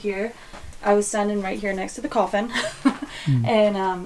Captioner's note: chuckles